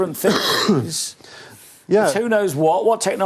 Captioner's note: coughs